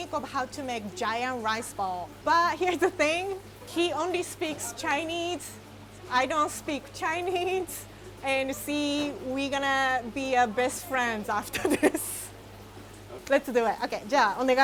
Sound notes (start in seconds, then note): 11.4 chuckling; 14.4 speaking in foreign language